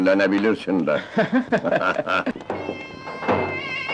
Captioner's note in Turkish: Kahkahalar